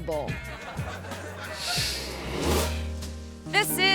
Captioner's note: audience laughs